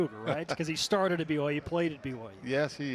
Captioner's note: laughter